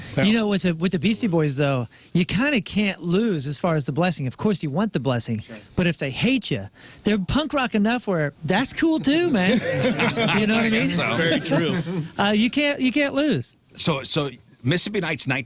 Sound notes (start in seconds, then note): 9.0 laughing